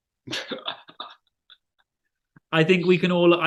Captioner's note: laughing